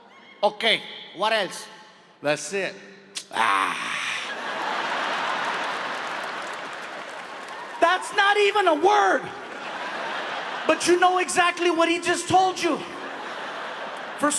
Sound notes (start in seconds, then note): 3.2 Gabriel groans; 4.2 audience laughs; 4.2 audience applauding; 9.3 audience laughs; 12.4 audience laughs